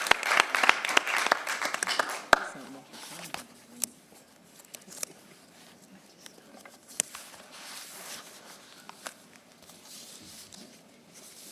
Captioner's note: applause